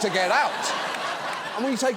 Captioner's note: audience laughs